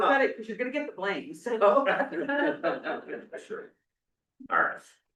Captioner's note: laughs